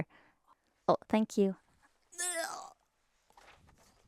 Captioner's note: grunts